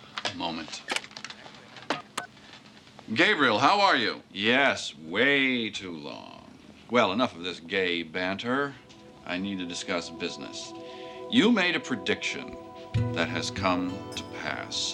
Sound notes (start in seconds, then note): 1.9 key tones beep